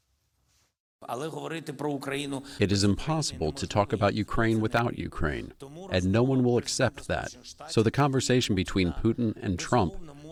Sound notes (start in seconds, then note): 3.3 through translator